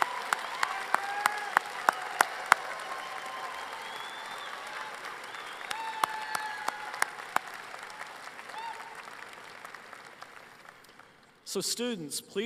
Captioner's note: applause